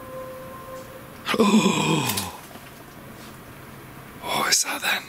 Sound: gasps

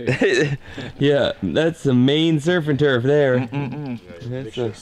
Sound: laughs

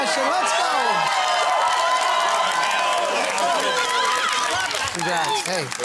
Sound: cheering and applause

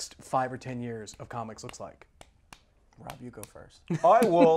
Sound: laughs

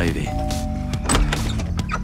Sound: doorbell rings

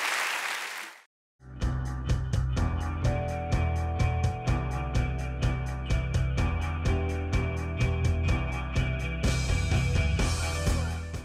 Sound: applause

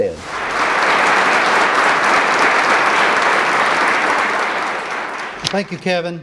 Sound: applause

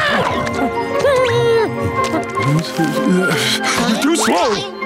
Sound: whimpering

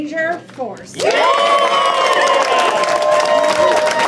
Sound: cheering

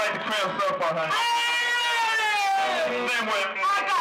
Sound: screams into microphone

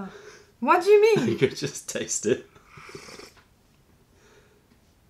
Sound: laughter

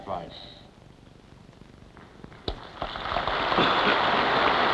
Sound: applause

